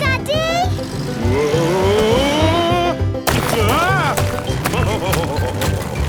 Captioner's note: laughing